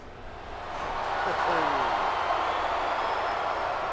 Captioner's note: audience cheers